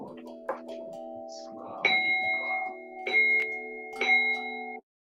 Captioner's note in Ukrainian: звучить звук магічного дзвону